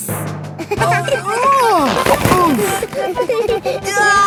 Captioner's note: giggling; grunting; giggling